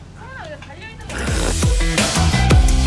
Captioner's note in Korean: 빵터짐